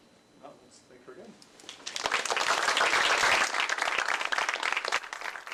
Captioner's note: applause